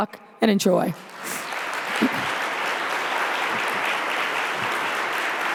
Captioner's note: audience applauding